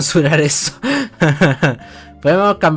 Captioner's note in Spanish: Risa forzada